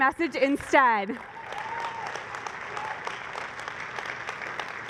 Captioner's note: applause